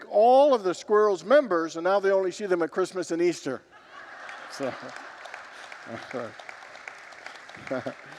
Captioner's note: congregants laugh